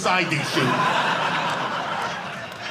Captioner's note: audience laughing